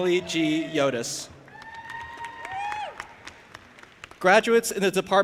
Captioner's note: audience applauding and cheering